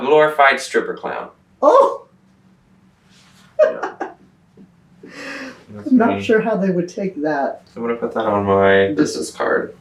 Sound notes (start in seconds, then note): 3.6 laughs